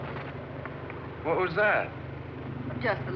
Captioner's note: thud